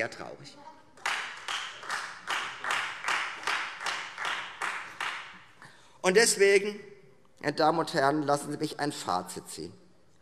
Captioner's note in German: Beifall Freie Demokraten